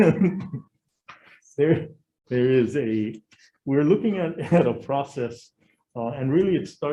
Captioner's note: chuckles